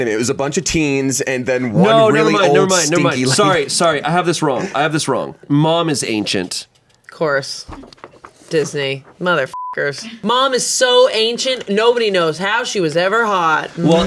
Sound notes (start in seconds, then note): 9.5 beep